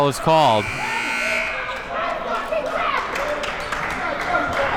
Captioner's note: siren blaring